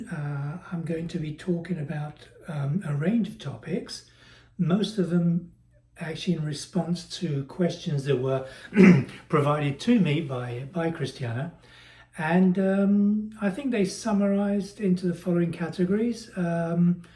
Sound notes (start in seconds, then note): 8.7 cough